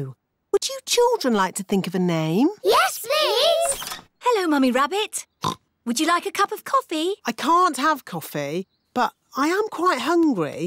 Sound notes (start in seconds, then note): 5.4 oinks